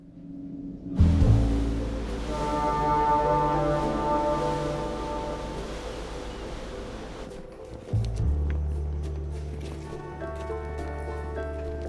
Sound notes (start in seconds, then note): 1.0 horn blares; 5.2 light jazz music